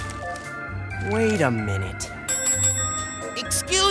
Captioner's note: bell dings